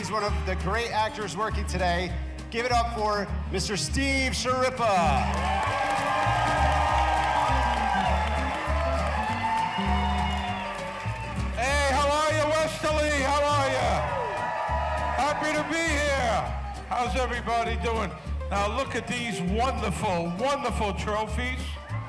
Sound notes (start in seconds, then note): 5.6 audience cheering; 5.6 gentle upbeat music